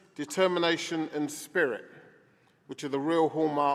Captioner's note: none